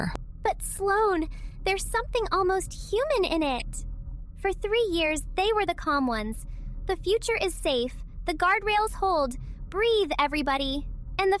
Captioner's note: excited